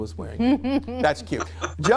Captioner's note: laughs